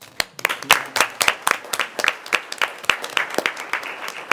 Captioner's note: members applauding